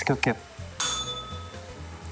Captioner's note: bell rings